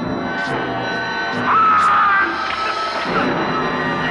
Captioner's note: screams